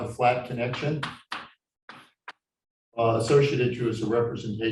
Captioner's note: chalkboard tapping loudly